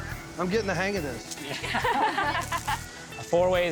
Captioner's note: ladies laughing